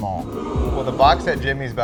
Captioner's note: crowd oohs